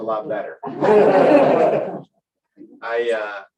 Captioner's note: laughter